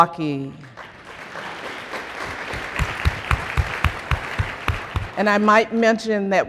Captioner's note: applause